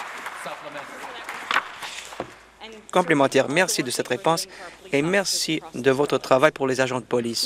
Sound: applause

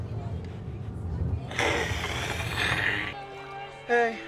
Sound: ABED hisses

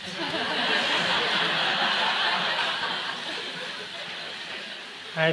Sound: laughter

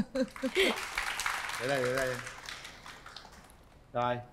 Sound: clap hands

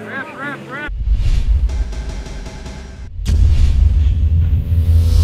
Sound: mechanical sounds

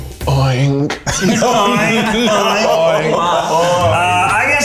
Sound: all laughing

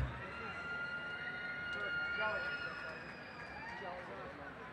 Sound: cheering

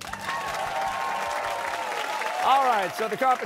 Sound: cheers and applause

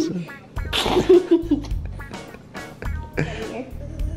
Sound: giggling

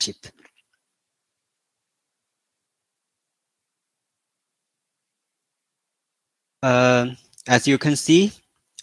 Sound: 沉默。。。。

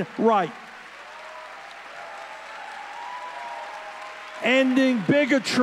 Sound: audience cheering

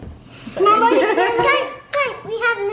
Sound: family giggles

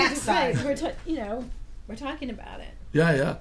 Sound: voiceover

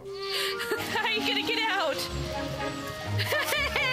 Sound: laughing

